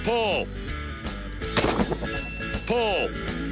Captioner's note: gun shot; bell ding